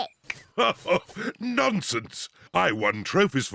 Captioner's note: laughs